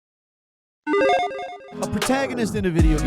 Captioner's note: logo beeping